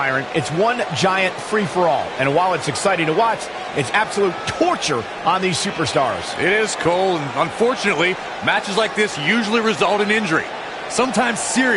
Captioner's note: crowd raves